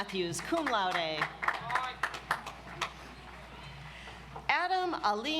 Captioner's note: audience applauds